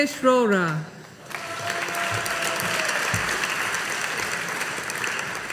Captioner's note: audience applauding